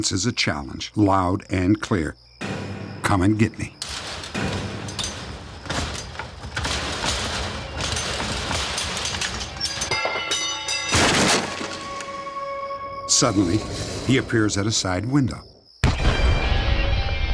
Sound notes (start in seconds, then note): 9.5 crowbar clanks; 10.5 bang; 15.8 gunshot